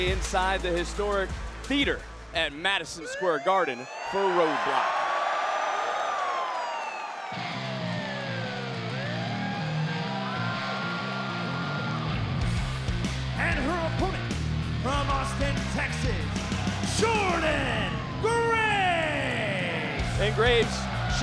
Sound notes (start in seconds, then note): 5.5 police siren blaring; 7.5 upbeat music